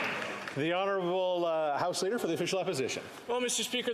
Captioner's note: applause